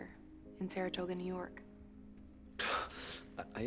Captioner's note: gasps